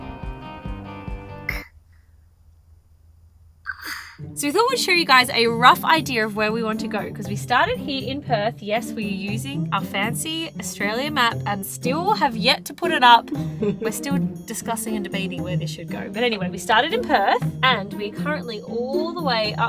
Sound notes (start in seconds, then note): 0.0 mellow guitar music; 1.9 gasping